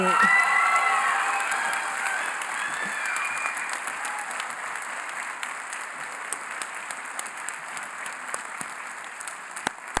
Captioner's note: cheering & Applause